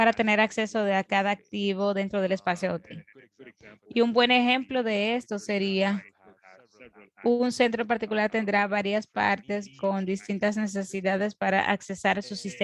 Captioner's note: foreign language spoken, 0:58:21 to 1:00:04